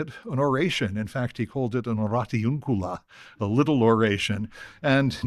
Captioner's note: non-english